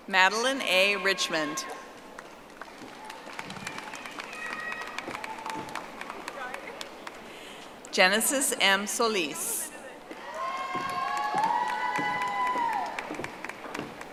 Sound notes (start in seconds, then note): 5.7 audience applauding; 13.8 audience applauding